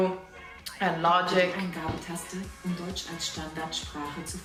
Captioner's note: laptop speaks German